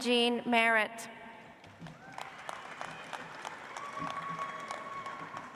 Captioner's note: audience applauds